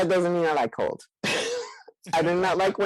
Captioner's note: laughs